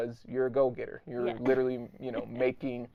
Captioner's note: laughing